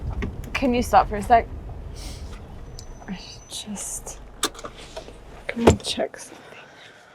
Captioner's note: car door opens